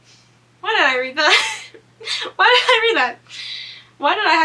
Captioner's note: laughs